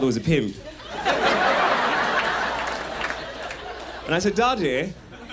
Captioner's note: audience laughs